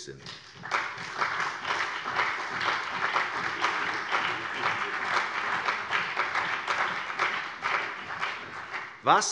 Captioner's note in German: Beifall CDU, BÜNDNIS 90/DIE GRÜNEN und SPD